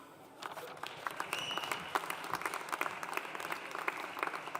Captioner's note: audience applauding